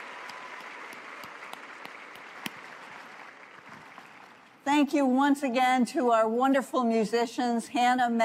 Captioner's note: applause